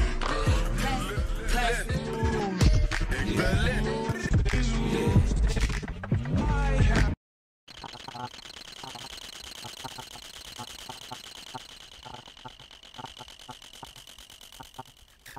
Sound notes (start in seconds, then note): 7.7 sound similar to crickets